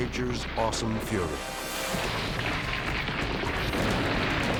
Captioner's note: suspenseful music; tower exploding; dramatic music